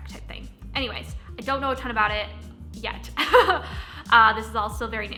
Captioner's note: chuckles